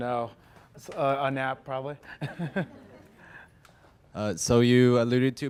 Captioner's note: chuckles